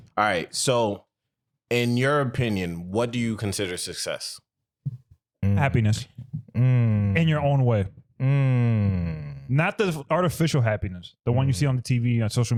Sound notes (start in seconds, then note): none